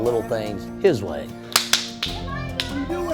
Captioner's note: clapping